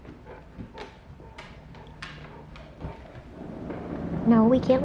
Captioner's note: dog steps sounding; door closing